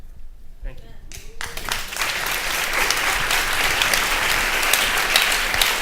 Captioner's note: audience applauding